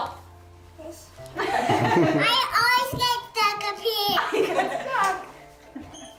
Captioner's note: laughter